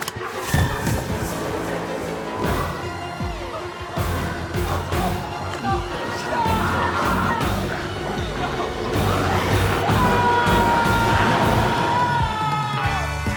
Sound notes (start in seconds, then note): 0.2 intense music continues; 4.1 biker whimpering; 10.0 biker screams